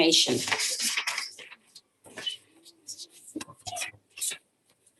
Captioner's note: papers rustling